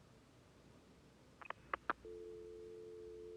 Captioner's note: click, dial tone